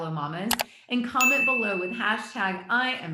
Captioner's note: mouse clicks; bell chimes